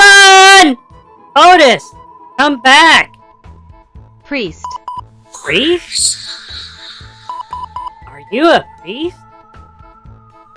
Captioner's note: excitedly